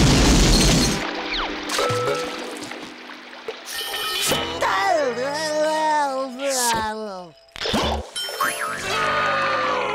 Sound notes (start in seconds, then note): 4.3 groaning